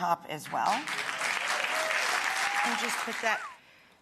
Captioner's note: cheers and applause